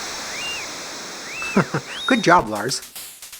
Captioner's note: chuckles